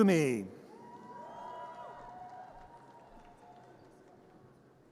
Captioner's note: audience cheers